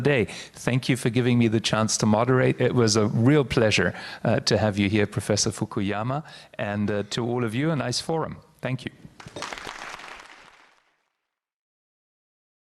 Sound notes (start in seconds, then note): 9.2 audience applauds